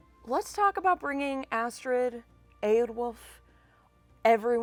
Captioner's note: none